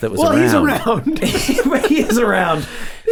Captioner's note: chuckles